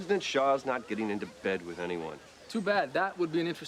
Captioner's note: laughs